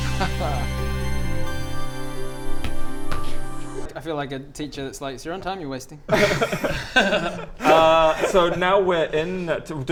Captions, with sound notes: Haha! I feel like a teacher that's like 'it's your own time you're wasting' *unapologetic giggles* Uh so now we're in